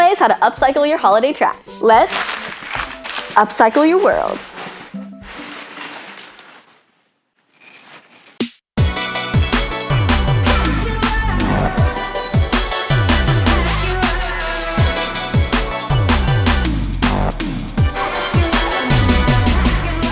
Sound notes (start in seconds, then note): 5.0 paper rustling; 8.6 upbeat hip music